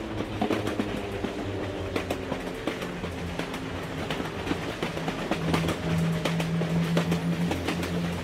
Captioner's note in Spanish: Sonido de avión